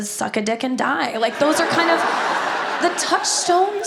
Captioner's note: audience laughs